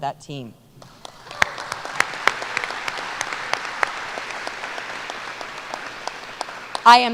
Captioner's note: applause